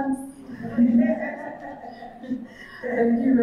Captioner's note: audience chuckling